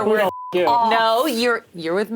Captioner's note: beep